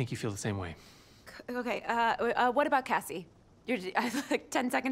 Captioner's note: chuckles